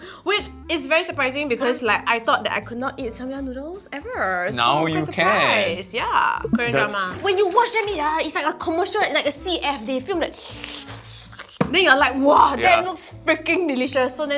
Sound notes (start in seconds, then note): 10.3 slurppppppp